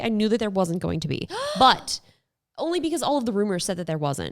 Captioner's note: gasps